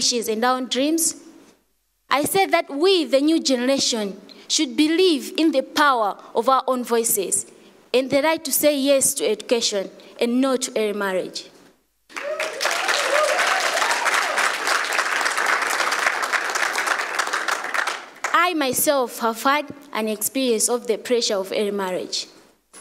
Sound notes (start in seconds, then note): 12.1 applause